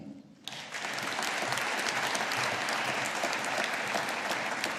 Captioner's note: audience applauding